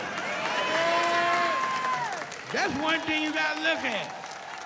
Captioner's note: cheering